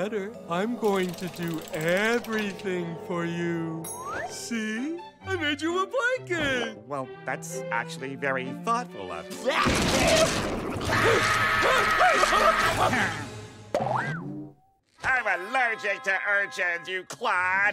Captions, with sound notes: I'm going to do everything for you. See, I made you a blanket. Well, that's actually very thoughtful of-- [sneezing] [screaming] I'm allergic to urchins, you clod!